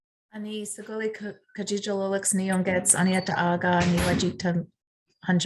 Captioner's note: speaking in foreign language